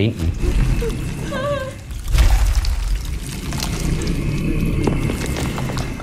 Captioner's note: Vecna grunting; woman moaning